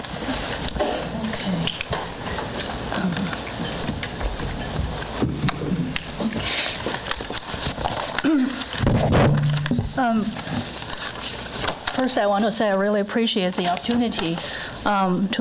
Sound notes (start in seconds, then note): 8.2 clears throat; 8.8 microphone distortion